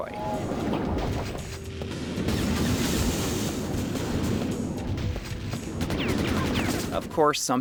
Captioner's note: Quake 2 Game Audio